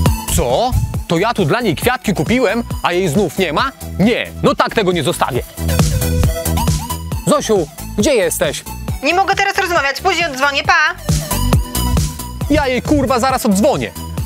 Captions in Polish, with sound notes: Co?! To ja tu dla niej kwiatki kupiłem, a jej znów nie ma? Nie, no tak tego nie zostawię! Zosiu, gdzie jesteś? *przez telefon* Nie mogę teraz rozmawiać, później oddzwonię. Pa! Ja jej, ku_wa zaraz oddzwonię...